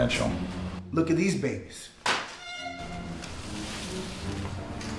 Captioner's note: file folder thuds